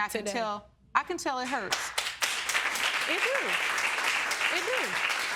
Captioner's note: audience applauding